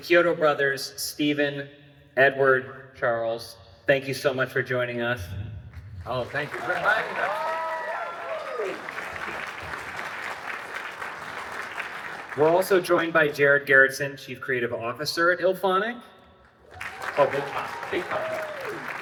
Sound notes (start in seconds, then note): 6.8 applause; 16.4 applause